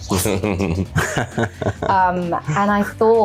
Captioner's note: laughing